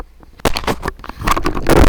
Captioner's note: knocks over mic